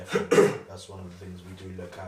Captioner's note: coughs